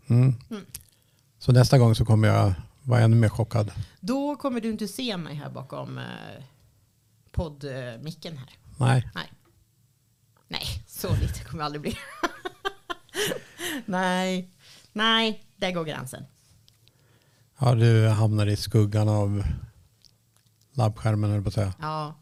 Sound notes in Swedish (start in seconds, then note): 11.8 skratt; 13.1 drar efter andan